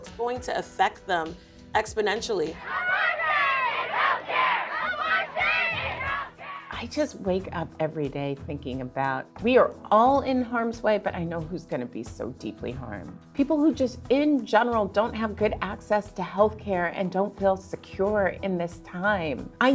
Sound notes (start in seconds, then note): 2.6 protesters chanting